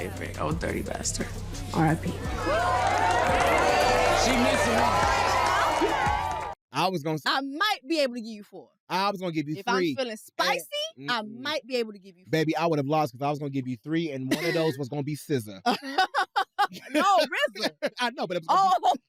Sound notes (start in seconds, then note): 2.2 cheering; 15.6 laughs